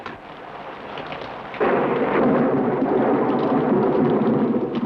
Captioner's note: thunder